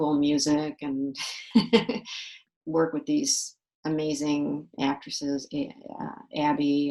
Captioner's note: laughs